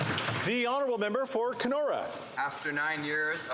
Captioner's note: some Applause